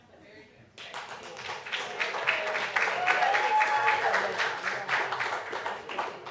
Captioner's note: applause